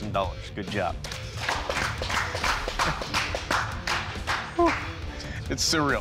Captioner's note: applause